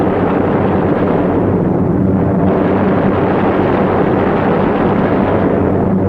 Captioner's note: plane engines humming; gunfire sounding